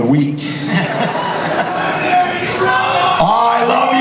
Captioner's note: audience laughs and cheers